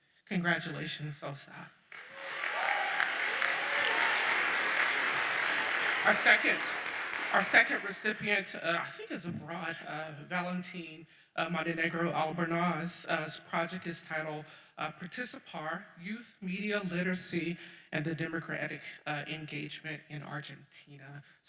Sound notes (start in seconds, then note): 1.9 audience cheers and applauds